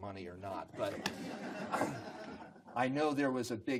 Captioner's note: group laughs